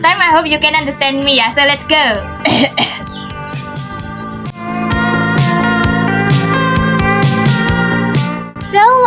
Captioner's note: unsure coughs